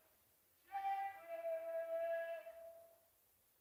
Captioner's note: Sir Humphrey's voice; faint voice